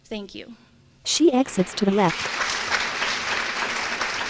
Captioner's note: applause